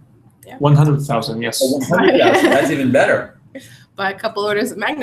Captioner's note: laugh